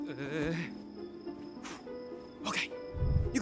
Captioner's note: sighs